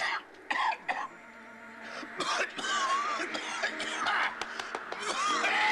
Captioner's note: coughing; wind whistling